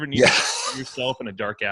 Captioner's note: laughter